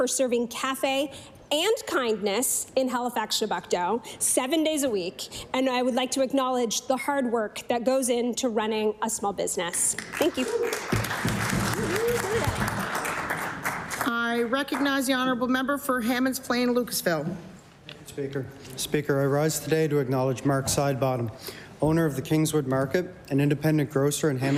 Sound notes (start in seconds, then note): 13.2 applause